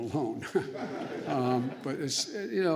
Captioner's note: laughter